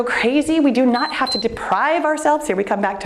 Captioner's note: timer beeps